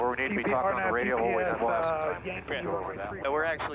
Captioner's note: air traffic communication